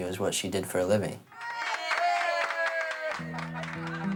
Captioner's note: kids cheering and clapping